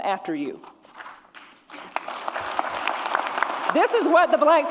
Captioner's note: audience applauds